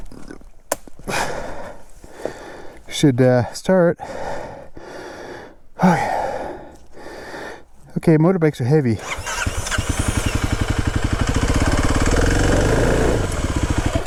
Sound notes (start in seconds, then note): 9.0 bike wheels whirring